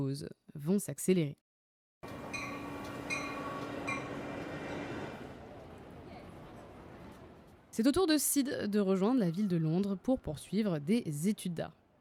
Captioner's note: train noises